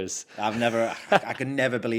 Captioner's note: chuckles